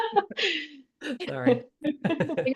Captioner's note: laughs